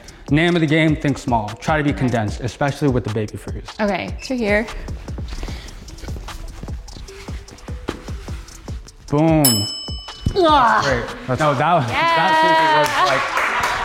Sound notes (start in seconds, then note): 9.4 bell chimes